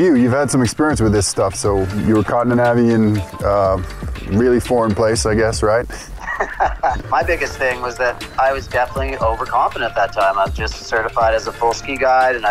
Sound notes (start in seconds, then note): 6.0 laughs